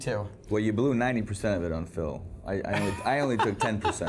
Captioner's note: laughs